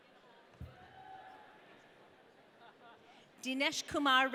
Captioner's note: audience cheering